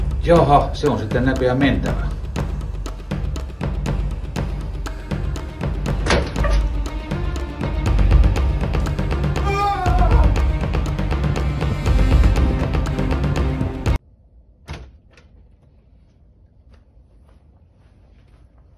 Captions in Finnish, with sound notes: Jaaha, se on sitten näköjään mentävä. [huutoa] [musiikki katkeaa]